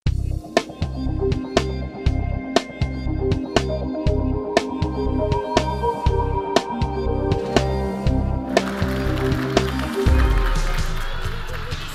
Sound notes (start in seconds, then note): 0.1 upbeat music; 8.5 clapping